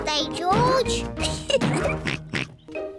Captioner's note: oinks; laughs